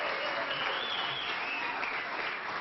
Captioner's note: applause